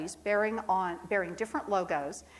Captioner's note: none